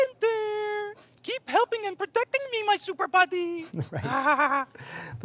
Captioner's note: chuckling